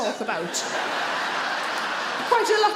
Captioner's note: audience laughs